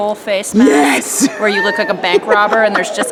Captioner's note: laughing